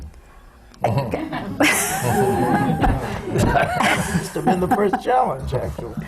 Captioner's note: laughter